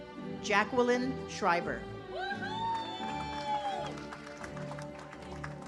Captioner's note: audience cheers